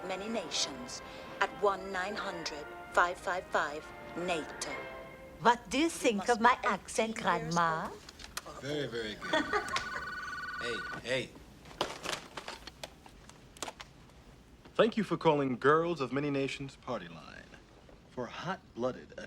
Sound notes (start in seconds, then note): 7.1 swedish Accent; 12.3 telephone Ringing